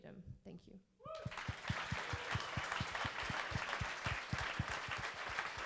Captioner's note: cheering and applauding